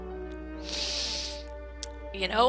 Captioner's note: deep inhale